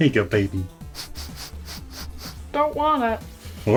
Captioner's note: dog sniffing